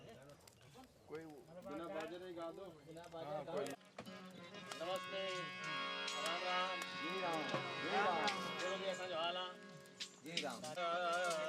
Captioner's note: indistinct Chatter